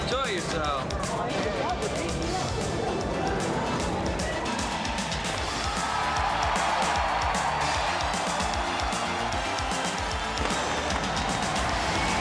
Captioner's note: crowd cheering